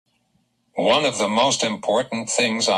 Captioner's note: voiceover